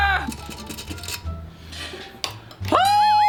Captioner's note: metal clanging